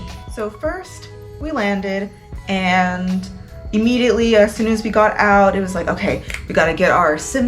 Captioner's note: snaps